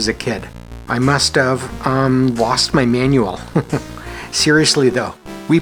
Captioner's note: chuckles